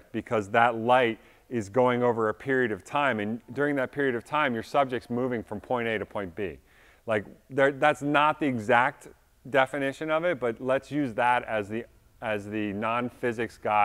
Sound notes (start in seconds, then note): none